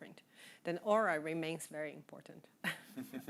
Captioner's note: chuckling